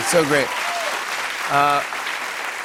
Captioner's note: applause